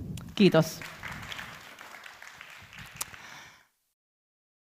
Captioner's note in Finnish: Aplodeja